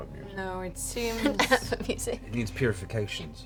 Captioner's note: laughs